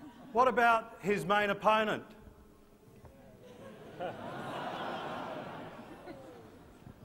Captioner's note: laughter